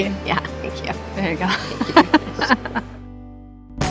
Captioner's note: laughing